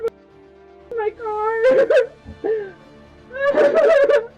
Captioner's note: cries; continues to cry